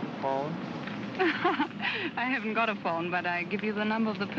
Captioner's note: laughs